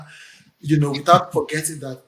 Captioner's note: laughs